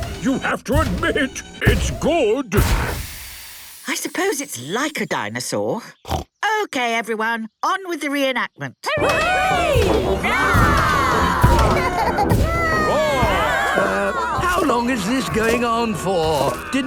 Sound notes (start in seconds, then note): 5.9 snorts; 10.2 cheering; 11.2 roarings, giggling